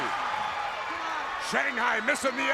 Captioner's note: crowd cheering